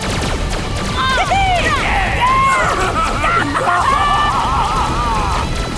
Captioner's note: cheering